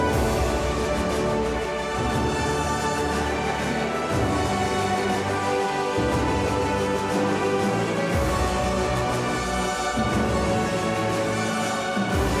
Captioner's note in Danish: Bifald